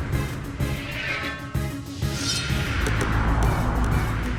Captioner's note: sword zinging